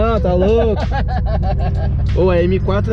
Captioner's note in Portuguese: Risadas